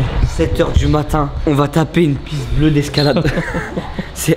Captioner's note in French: rires